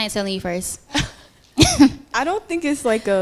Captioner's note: laughter